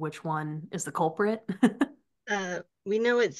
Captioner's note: laughing